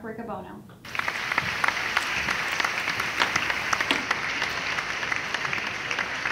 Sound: clapping

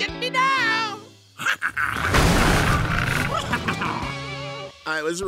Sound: growling

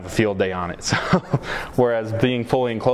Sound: chuckles

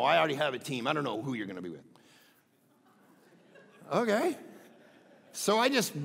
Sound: crowd laughing

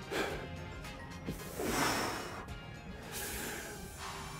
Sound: exhale

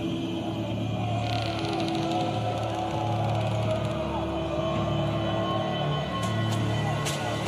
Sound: suspenseful music; men shouting

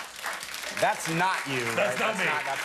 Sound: applause

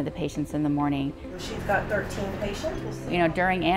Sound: background talking

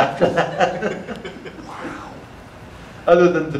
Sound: audience laughter

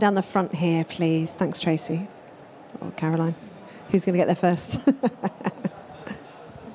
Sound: laughs

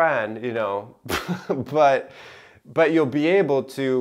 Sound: chuckling

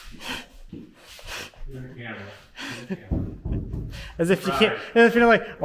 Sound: laughing

